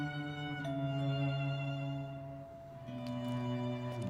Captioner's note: doorbell ringing